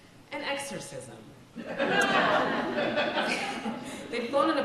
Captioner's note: audience laughs